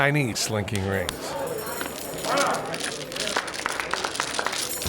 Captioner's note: rings rattling